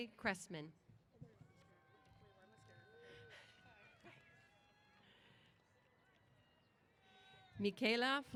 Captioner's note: applause & Cheers